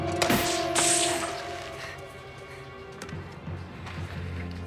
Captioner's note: electrical box pops